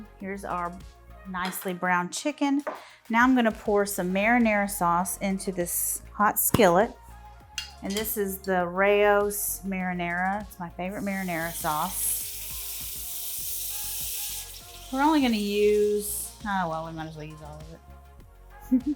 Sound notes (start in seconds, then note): 10.9 sizzling